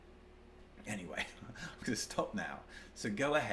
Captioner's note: chuckles